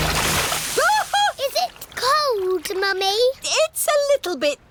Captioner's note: shrieks